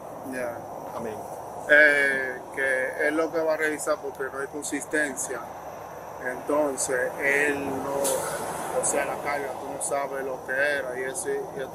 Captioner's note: speaking in Spanish